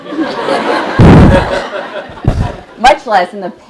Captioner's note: laugh